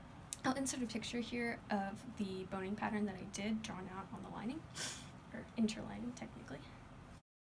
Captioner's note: sniffs